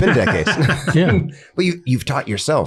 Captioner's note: everyone laughs